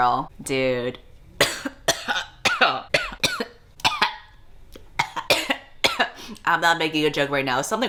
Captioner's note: coughing fit